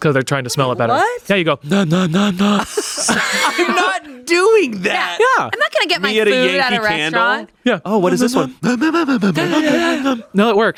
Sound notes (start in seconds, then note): 2.6 inhales; 9.0 everyone inhales